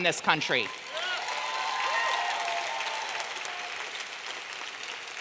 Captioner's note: audience clapping and cheering